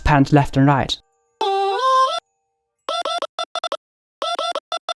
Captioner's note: silly voice sample playing